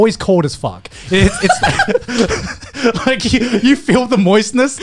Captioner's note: laughing loudly